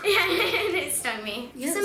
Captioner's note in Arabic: يضحك